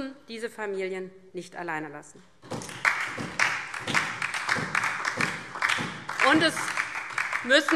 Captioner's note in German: Beifall DIE LINKE und vereinzelt SPD